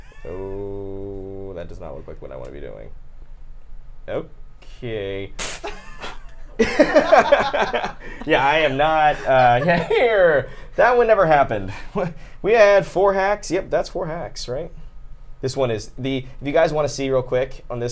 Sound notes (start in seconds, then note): 5.4 blows candle out; 5.6 everyone laughing